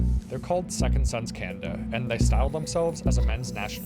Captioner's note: chanting